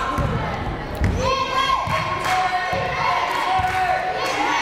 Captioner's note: crowd cheering